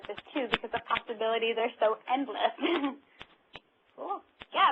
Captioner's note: laughter